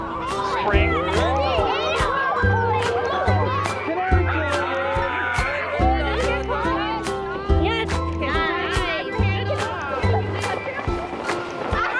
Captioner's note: laughter, shouts